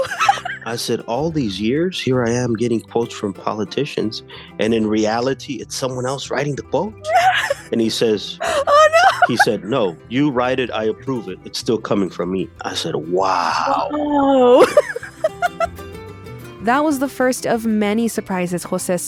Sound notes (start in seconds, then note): 8.4 laughter